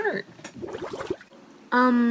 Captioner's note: pooping gurgles